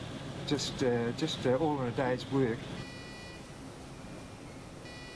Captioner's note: chiming faintly